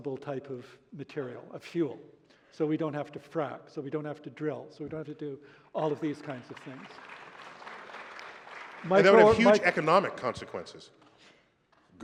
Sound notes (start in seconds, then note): 7.3 applause